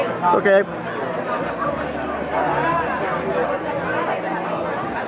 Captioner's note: crowd chattering